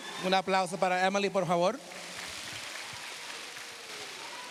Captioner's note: speaking spanish